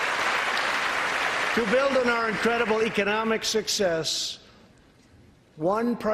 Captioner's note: applause